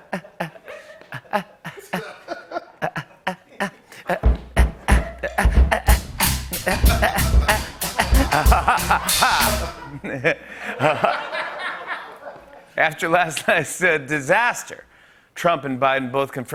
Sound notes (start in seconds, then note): 2.5 laughing rhythmically